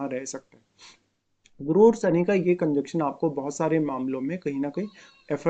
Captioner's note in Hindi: नाक से की जाने वाली आवाज़